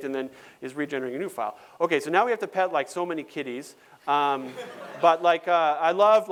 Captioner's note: laughter